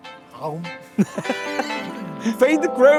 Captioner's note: laughs